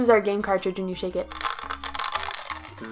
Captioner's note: horrible clacking noises